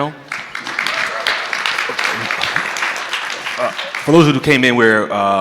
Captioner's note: audience clapping